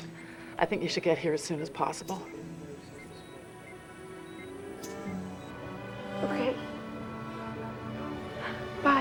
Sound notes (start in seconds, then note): 3.0 ekg beeping